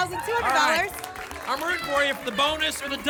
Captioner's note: applause and cheering